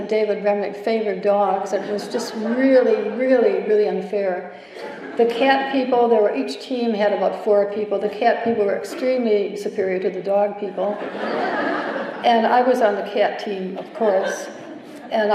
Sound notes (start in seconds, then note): 4.7 laughter; 10.8 laughter